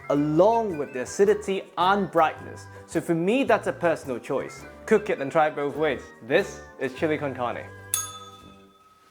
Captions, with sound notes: along with the acidity and brightness. So for me, that's a personal choice. Cook it and try it both ways. This is chilli con carne. [bell rings]